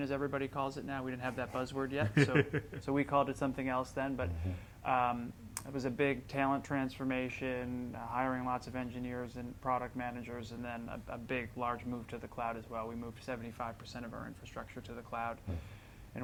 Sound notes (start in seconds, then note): 2.0 laughing